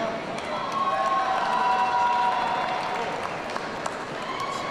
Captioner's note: audience cheering